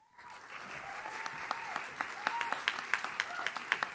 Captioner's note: audience cheers